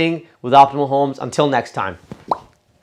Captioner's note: pops lips